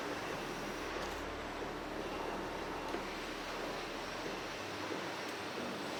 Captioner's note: machines continue whirring and tapping